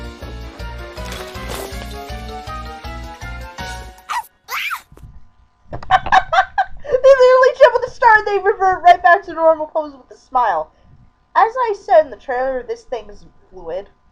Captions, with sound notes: (cracking, rustling) - (barking) - (screaming) (laughing) They literally jump at the start and they revert right back to normal poses with a smile! As I said in the trailer this thing isn't fluid.